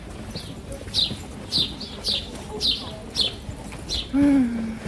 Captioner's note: bird sounds